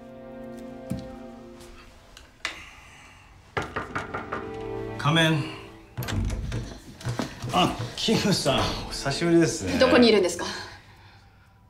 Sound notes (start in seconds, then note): 2.4 light sigh; 3.5 knocks on the door; 5.8 door opens